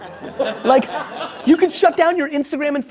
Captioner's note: laughing